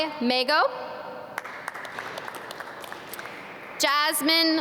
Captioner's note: audience clap